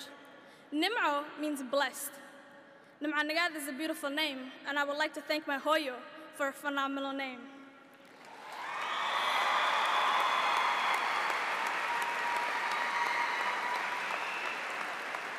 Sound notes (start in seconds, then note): 5.5 speaks a foreign language; 8.0 audience applauds; 8.2 cheers